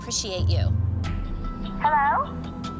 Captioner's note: on phone